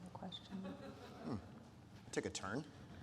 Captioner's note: audience lauhing